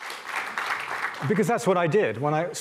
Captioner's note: applause